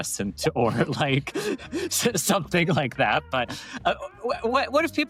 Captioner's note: laughs